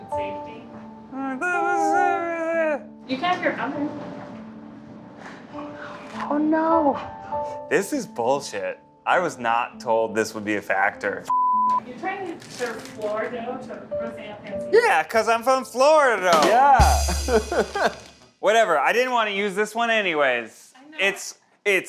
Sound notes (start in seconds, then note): 1.1 murmuring; 11.3 beep; 16.8 laughs